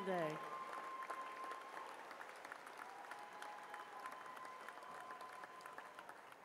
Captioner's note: cheers and applause